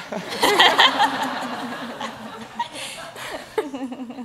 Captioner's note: audience laughs